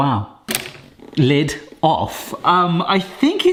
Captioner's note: lid clicks